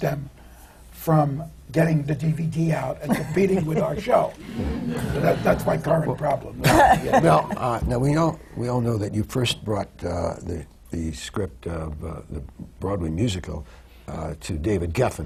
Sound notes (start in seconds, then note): 6.5 laughter